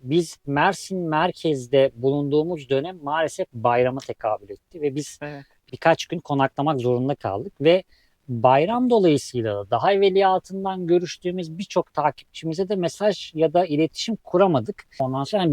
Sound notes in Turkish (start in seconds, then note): none